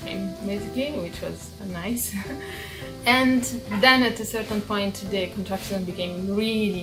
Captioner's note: chuckling